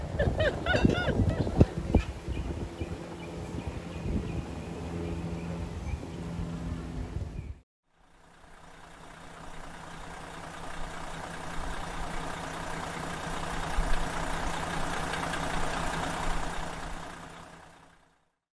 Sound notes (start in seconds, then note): 0.0 laughing; 8.4 car engine idling